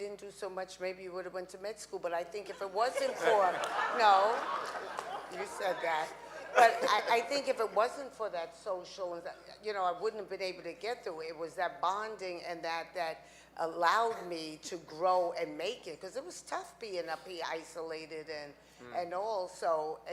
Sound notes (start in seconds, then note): 2.9 audience laughing